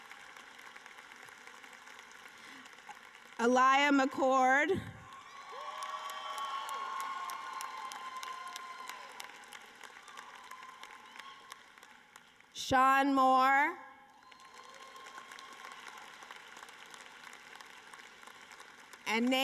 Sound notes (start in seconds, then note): 0.0 applause; 8.6 cheering and applause